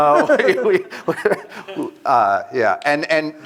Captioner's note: laughter